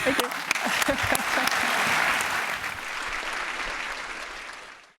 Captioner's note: applause